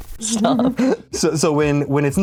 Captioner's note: laughs